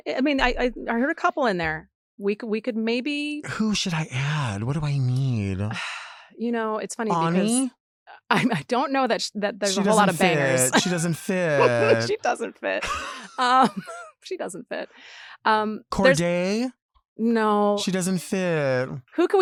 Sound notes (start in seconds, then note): 5.2 sighs; 9.6 laughs; 16.0 laughs